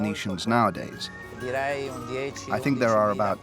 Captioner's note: Italian spoken audio